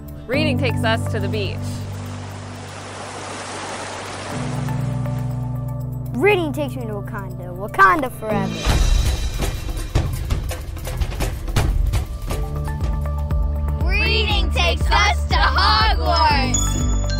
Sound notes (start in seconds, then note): 3.2 ocean wave sounds; 8.4 tribal drums